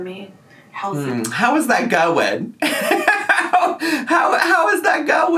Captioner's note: laughs